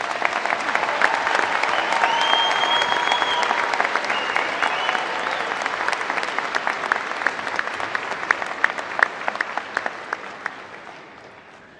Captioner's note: applause